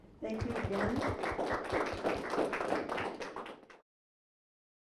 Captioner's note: crowd applauds